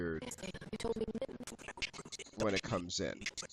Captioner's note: audio skipping